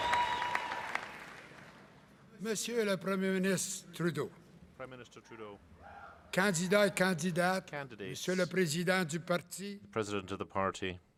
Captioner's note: cheering and applause